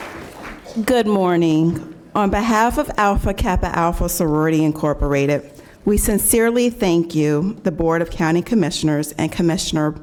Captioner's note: applause